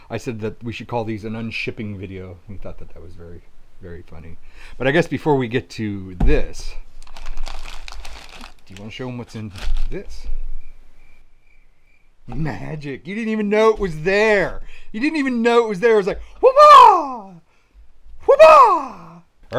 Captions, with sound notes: I said that we should call these an un-shipping video. And he thought that that was very funny. But I guess before we get to this, do you wanna show 'em what's in this? (crickets chirping) Magic. You didn't even know it was there. You didn't even know it was there, it was like (yells excitedly). (yells excitedly again)